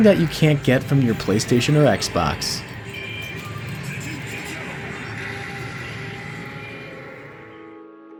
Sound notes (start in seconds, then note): 1.7 video Game Noises